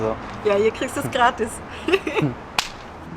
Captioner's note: laughter